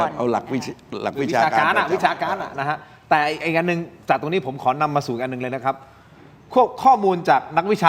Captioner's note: laughs